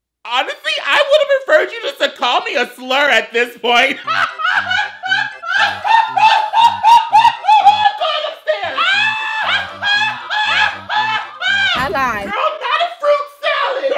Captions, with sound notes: Honestly, I would've preferred you just to call me a slur at this point. (laughs hysterically) (whimsical music) Walk on the stairs. (laughs hysterically) (whimsical music) - Ally. - Girl, not a fruit salad!